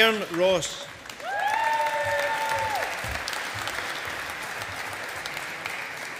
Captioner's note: audience applauding